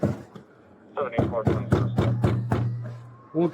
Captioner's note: radio chatter